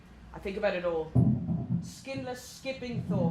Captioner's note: thudding upstairs returns